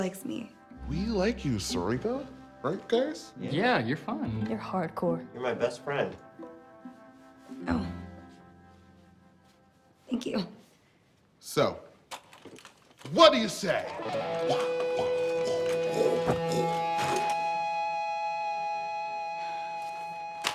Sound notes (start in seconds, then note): 13.8 imitates lances swishing; 17.8 upbeat rock music